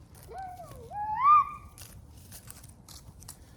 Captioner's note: excited Noises